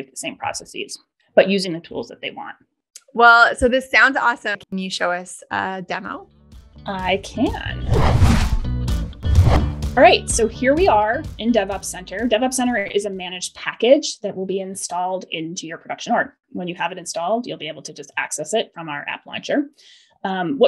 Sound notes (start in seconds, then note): 6.8 upbeat music; 7.8 air whooshing